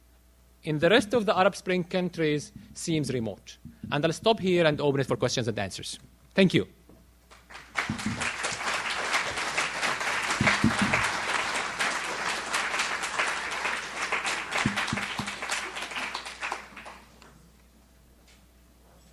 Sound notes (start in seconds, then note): 11.8 audience applauds